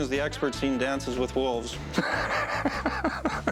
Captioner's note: laughs